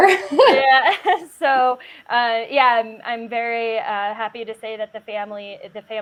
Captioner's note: laughs